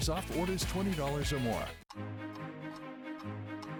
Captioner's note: clock ticking